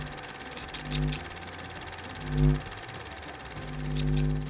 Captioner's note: scissors snipping